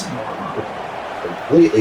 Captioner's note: crowd Noises